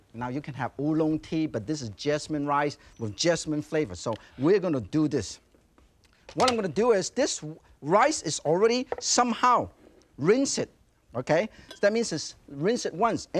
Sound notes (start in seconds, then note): 6.8 tray clicks; 9.4 saucer thuds softly